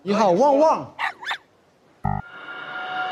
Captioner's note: woof, woof